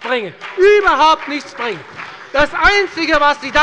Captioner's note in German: Beifall bei der FDP und bei Abgeordneten der SPD